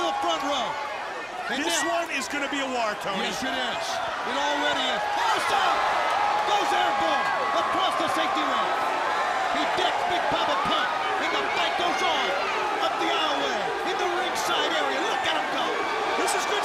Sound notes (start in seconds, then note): 5.1 crowd cheering